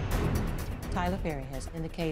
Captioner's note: none